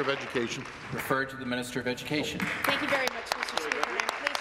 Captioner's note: applause